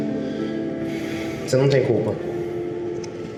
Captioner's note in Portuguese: Suspiro